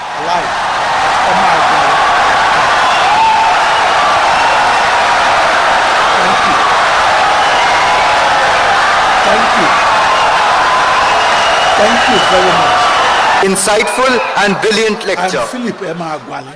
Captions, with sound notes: I’m Philip Emeagwali. [Wild applause and cheering for 17 seconds] Insightful and brilliant lecture